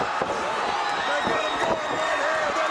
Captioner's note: crowd cheering